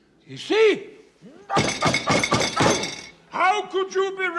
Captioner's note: grunting